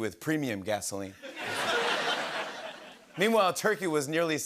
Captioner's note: laughter